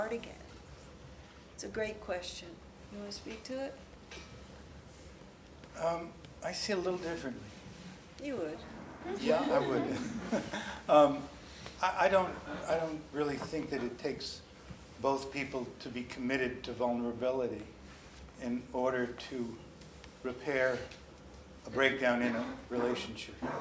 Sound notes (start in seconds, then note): 9.0 laughs